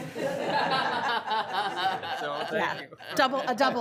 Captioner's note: room laughing